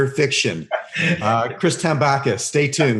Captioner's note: laughing